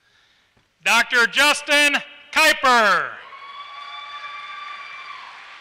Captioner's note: applause